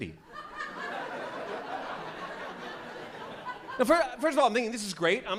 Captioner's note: laughter